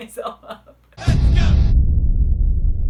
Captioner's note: laughter; loud Bang